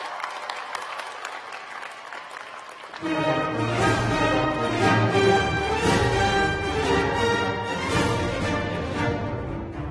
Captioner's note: cheers and applause